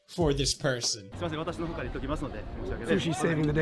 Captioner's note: police and guide talk